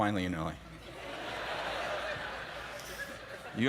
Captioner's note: laughter